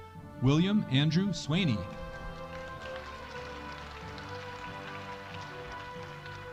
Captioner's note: audience applauding